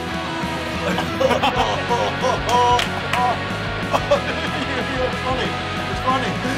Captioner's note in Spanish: Riendo